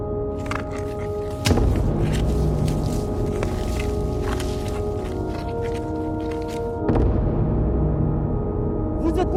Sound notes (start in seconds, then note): 0.4 feet crunching through gravel